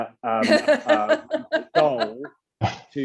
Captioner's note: laughs